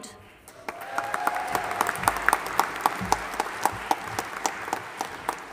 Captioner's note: audience applauding and cheering